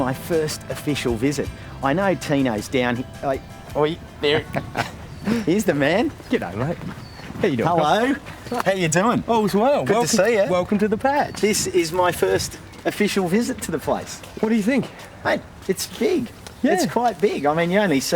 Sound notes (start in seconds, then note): 4.1 laughs